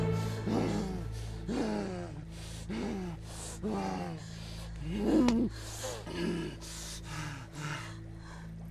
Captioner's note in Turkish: Nefes alma sesi